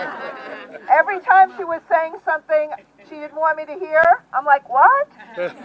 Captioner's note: laughter